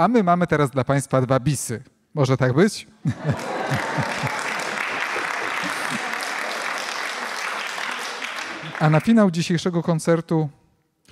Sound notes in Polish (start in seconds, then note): 3.0 śmiechy, oklaski